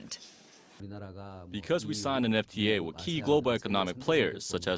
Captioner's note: Korean